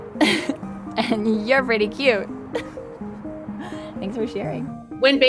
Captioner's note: laughs